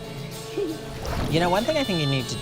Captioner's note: water splashes